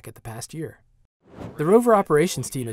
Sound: whoosh

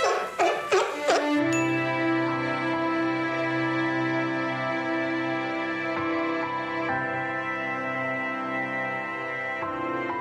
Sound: the Seal is Barking

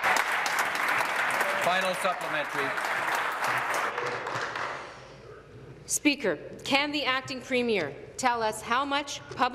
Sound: applause

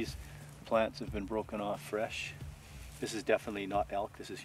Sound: voiceover

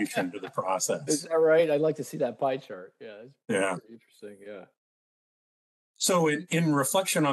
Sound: laughing

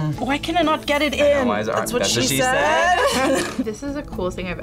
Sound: laughs

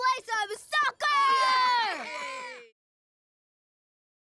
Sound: cheering

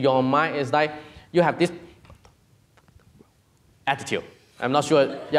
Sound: whispering

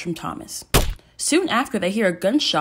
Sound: gunshot

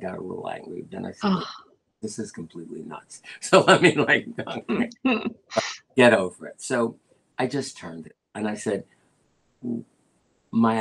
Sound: laughter

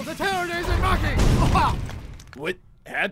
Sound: boom!

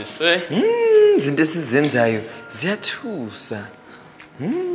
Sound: speaking in foreign language

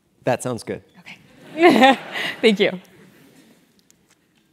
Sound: laugh

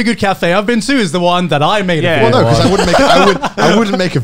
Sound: laughing

